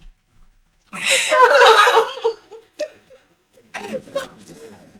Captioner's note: yells